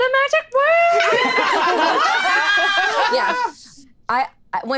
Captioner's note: all laughing